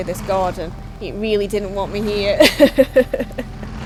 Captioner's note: laughs